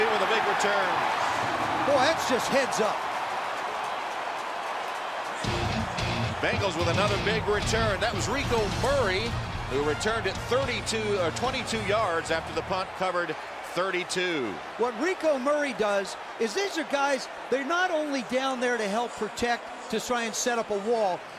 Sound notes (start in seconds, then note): 3.8 cheering; 5.6 upbeat music